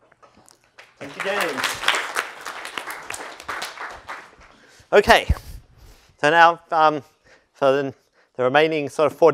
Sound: applause

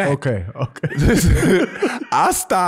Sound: laughs

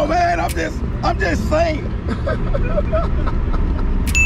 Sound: laughs

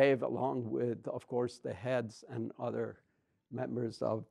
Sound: none

